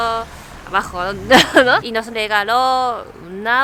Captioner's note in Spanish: risas